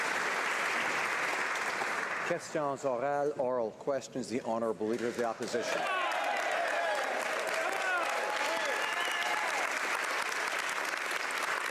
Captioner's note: applause